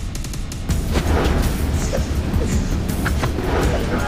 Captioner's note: whooshing